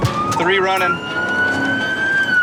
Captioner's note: police siren